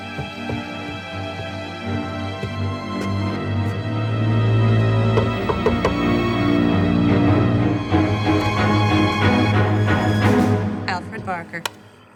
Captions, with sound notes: (knocking) (scary music) - Alfred Barker.